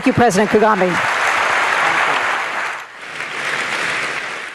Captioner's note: applause